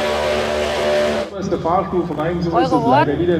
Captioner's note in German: Lautsprecherdurchsage